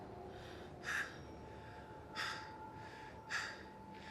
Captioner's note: panting